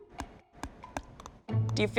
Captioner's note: chewing